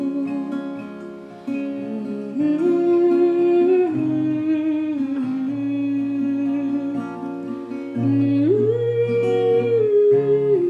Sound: humming

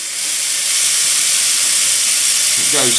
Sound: motor more loud

